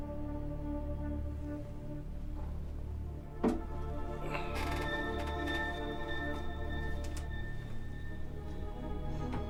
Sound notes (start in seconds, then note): 4.6 Grandon grunts